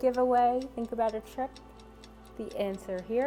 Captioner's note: clock ticking